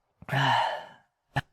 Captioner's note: sigh